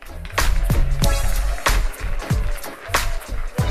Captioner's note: applause